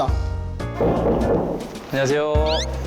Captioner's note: knock knock knock